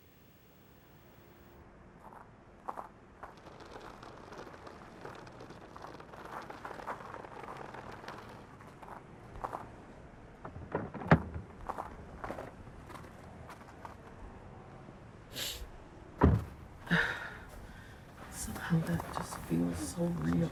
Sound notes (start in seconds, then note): 2.6 shoes crunching on gravel; 4.7 wheels crunching on gravel; 10.6 door clanging; 16.2 door banging; 16.9 sobbing